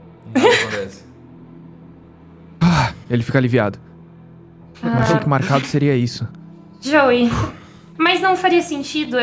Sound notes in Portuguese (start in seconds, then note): 2.5 suspiro de alívio